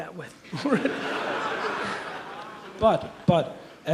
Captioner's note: audience laughs